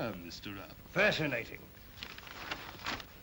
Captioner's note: map rustles